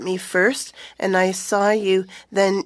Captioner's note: speaking French